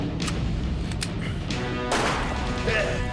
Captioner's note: gun fires